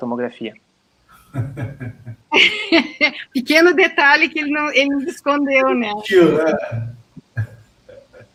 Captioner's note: laughter